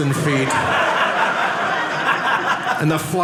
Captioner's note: audience laughing